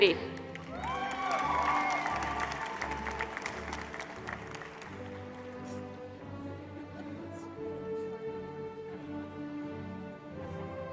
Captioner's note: applause